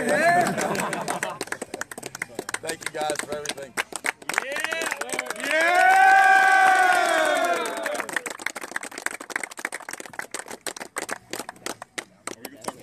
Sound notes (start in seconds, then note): 0.1 laugh; 5.6 applause